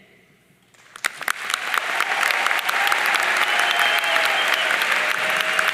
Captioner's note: audience cheering and applauding